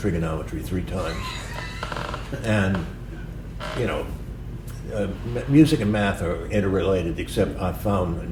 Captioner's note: laughter